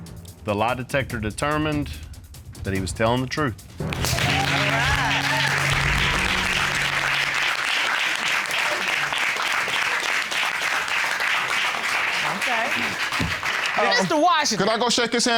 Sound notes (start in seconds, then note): 3.6 applauding